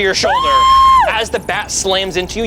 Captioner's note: screams